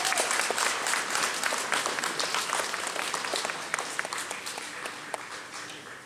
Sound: applause

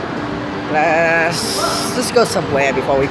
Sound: making random noises

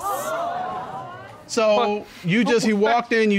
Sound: audience gasping

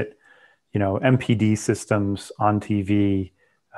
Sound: breath

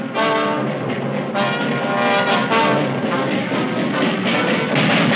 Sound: train chugging

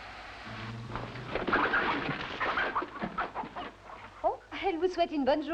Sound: chickens squawking

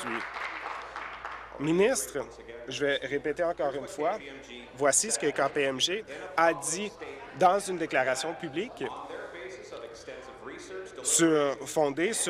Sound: applause

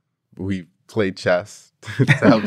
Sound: laugh

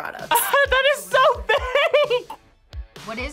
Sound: laughs

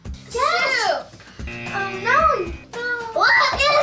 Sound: buzzer

